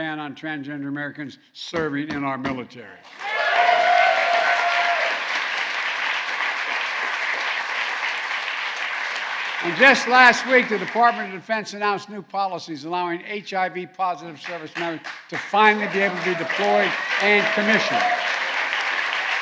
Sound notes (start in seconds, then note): 3.1 applause; 17.1 applause